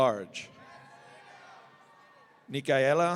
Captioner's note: audience cheering